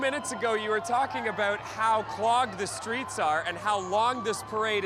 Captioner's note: cheering